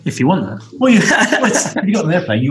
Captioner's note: laughs